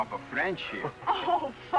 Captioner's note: laughter